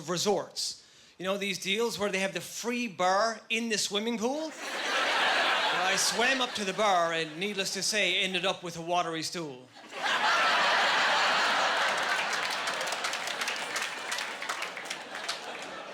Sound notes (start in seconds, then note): 4.6 laughing; 9.8 laughing and applause